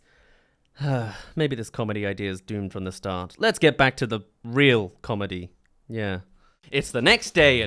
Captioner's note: sigh